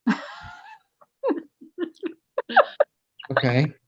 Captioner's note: laughing